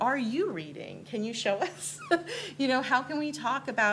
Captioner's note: laughs